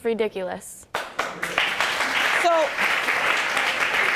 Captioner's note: audience applauding